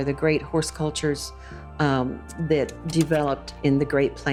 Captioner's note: slide projector clicks